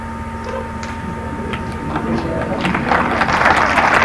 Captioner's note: applause